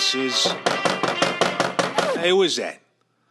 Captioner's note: knock on door